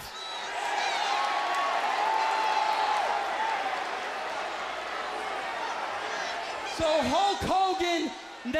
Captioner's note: crowd cheering